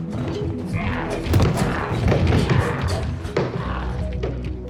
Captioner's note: door rattling